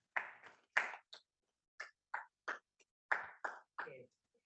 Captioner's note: audience applauding